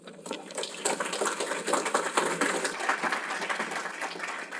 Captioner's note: applause